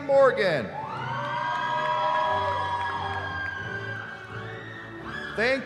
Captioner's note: cheering